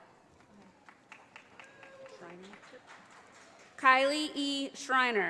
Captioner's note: audience applauding